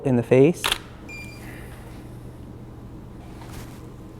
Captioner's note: shutter clicks